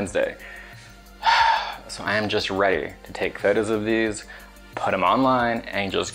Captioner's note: sighs